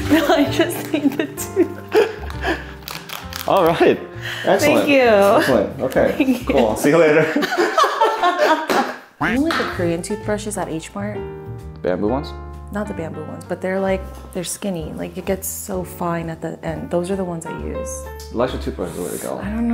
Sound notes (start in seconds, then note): 2.7 both laughing; 8.0 both laughing